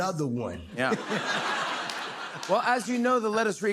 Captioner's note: laughter